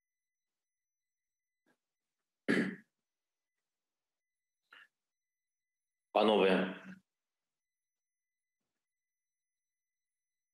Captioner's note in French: voix de l'interprète